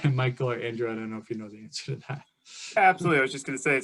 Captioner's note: laughs